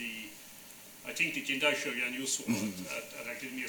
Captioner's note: speaking foreign language